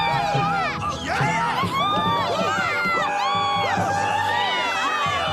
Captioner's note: CROWD cheers